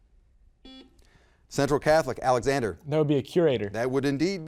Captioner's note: buzzer beeps